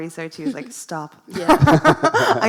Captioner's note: laughs